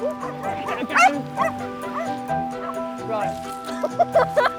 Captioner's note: dog barking